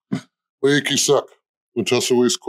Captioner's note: greeting in Pequot